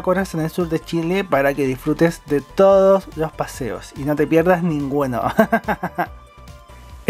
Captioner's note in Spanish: risas